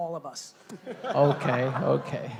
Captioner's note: laughing